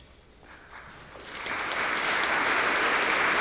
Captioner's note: applause